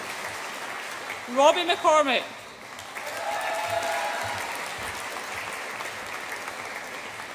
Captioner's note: audience applauds and cheers